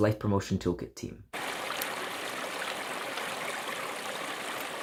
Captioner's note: river flowing